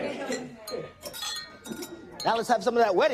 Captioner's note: glasses clinking